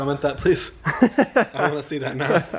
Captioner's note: laughing